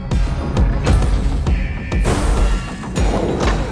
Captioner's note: a forge knocks